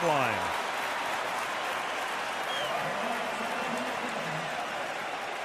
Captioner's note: cheering